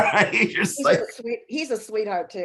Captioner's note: chuckling